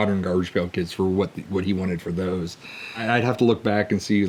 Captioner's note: none